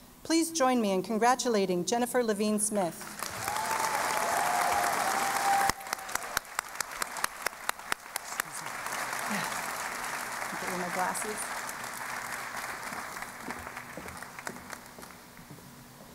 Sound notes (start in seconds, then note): 3.1 cheering and Applause; 12.5 applause